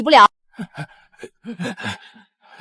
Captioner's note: coughing